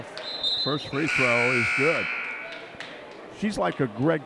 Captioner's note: buzzer sounds